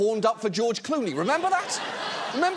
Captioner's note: audience laughs